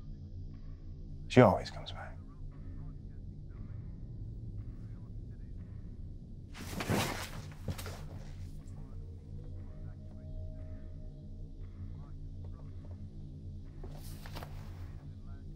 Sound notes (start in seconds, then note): none